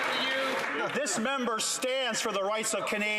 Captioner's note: some Applause